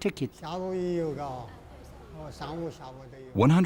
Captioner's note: speaking in foreign language